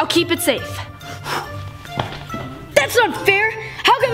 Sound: exhaling

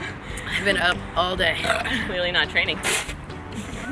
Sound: burrrp

